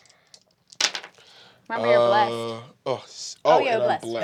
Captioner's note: dice clattering